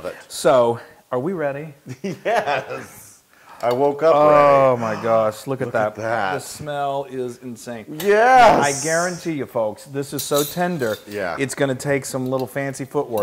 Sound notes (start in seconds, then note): 2.0 laugh